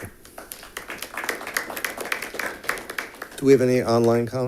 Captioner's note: audience clapping